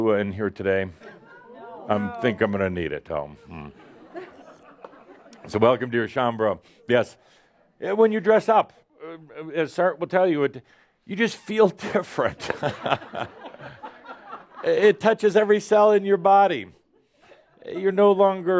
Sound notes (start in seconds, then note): 6.6 more chuckles; 11.8 laughter